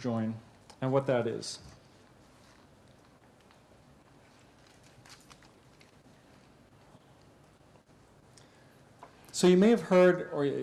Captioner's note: pause